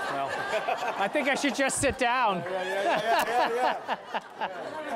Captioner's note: laughter